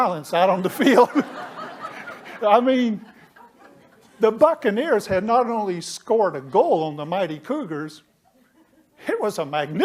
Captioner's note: laughter